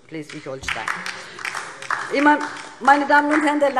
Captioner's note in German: Beifall DIE LINKE